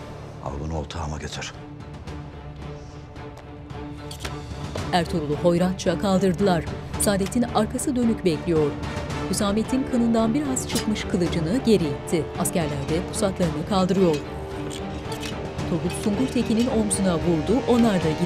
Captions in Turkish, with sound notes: Al bunu otağıma getir. (Müzik - Gerilim) (Kılıç kınına girme sesleri)